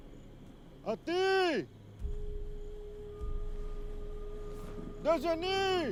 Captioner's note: speaking in foreign language